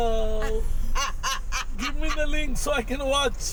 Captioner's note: laughing